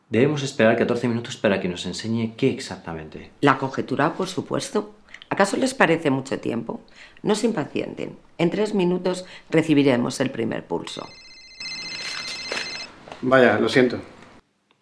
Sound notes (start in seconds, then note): 11.5 phone ringing